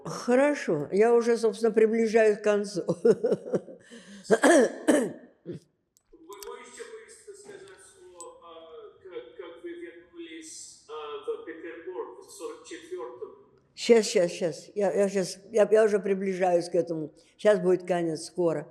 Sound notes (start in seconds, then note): 3.0 laughing; 4.2 coughing